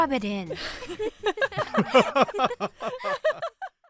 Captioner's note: laughter